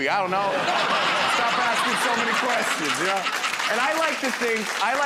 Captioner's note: laughter